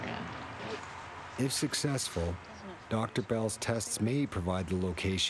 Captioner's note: voiceover